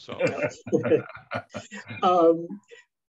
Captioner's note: laughing